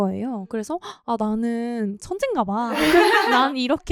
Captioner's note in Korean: 웃음